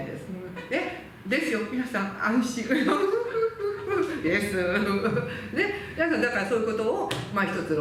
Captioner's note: laughs